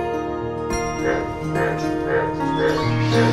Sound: frog croaking

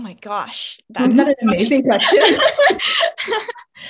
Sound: laughs

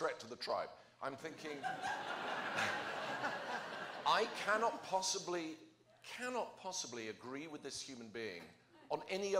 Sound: laughter

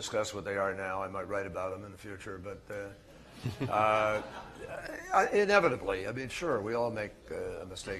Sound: laughter

